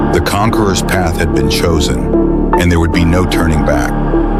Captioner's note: none